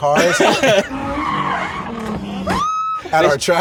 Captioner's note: tires screeching